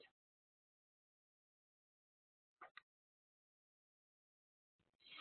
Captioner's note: silence